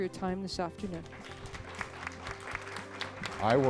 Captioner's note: applause